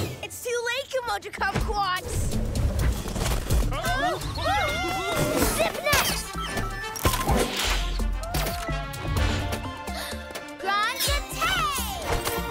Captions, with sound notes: It's too late, Kimoja Kumquats! (Shrieking) Zip Net! (Gasps) Grand Jeté!